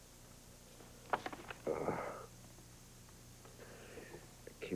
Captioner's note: groans